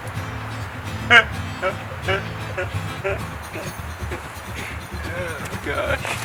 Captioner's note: laughing like a seal